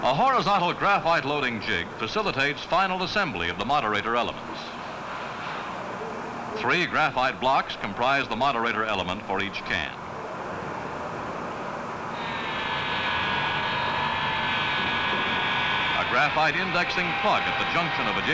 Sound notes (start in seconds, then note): 12.0 machine buzzes